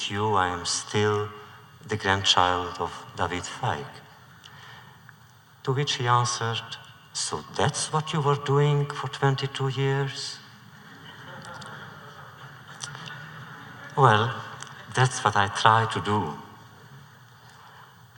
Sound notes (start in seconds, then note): 10.7 laughter